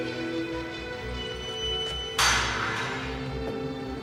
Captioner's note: gate clangs